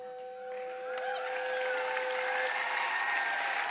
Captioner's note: applause